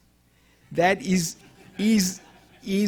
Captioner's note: audience chuckling